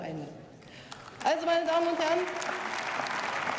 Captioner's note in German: Beifall